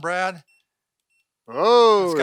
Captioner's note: beeping